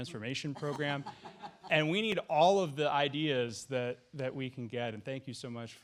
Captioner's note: laughter